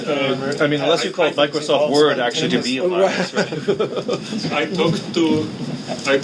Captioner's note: laughing